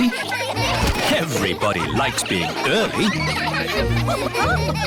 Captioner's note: laughter